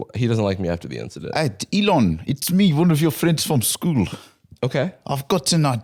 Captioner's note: south African accent